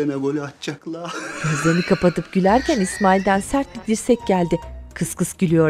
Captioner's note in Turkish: Gülme sesi